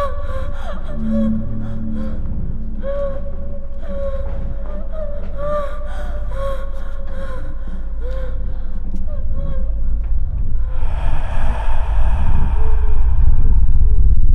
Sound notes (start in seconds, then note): 10.9 ghostly voice